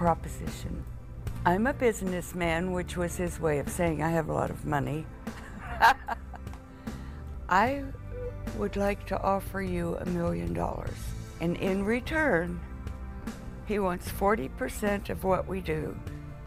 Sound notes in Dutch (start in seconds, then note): 5.3 lacht